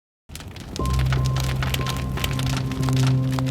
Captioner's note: fire crackling